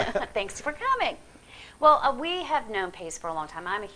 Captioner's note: laughing